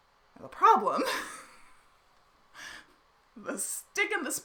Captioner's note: laughs